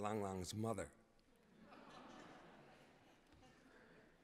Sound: laughter

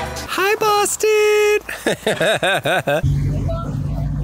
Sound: laughs

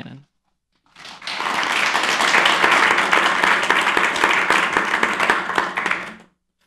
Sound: applause

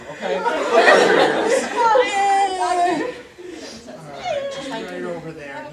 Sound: audience laughter

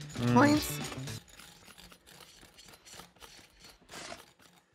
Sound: knife scraping

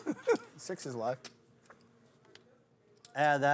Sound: voiceover

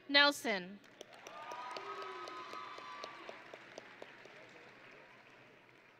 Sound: audience and graduates cheering

